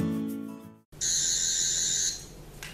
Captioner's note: intro music; Sonic Screwdriver sound